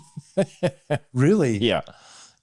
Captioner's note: laughs